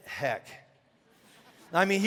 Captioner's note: congregation laughing